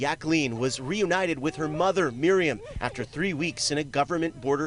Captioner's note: sobbing